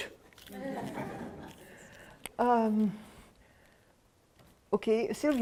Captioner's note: laughter